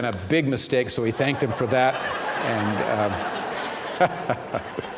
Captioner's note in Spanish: risas